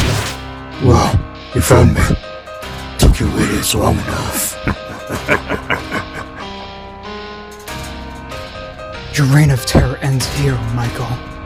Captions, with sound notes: Michael:Well, you found me, took you idiots long enough.(Chuckles) Dream:Your reign of terror ends here Michael!